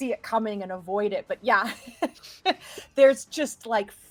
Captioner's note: chuckles